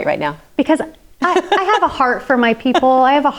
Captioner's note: laughs